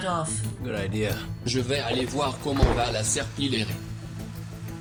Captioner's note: lobster speaking French